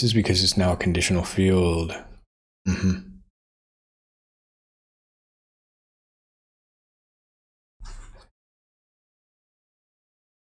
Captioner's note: blank Audio